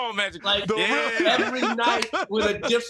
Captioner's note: mero chuckles